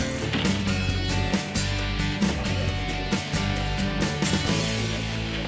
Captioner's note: people talking in the background